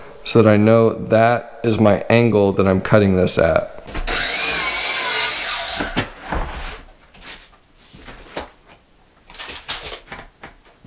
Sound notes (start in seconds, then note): 3.9 saw whirring